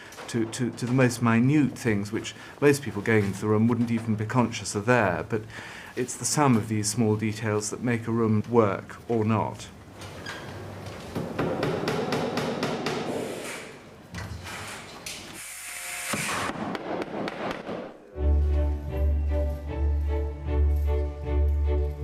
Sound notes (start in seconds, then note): 11.1 hammering; 18.1 light orchestral music